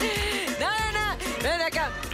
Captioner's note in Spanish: Risas